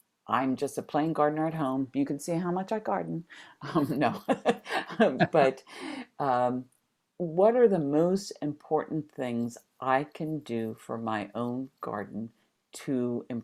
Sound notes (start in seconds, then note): 3.7 laughs